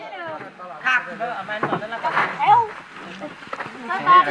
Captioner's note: foreign language